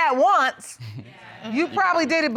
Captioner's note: chuckles